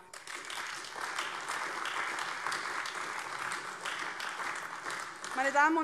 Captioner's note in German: Beifall AfD